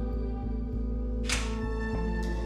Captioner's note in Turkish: Kapı açılıyor